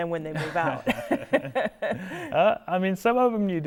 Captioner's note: laughing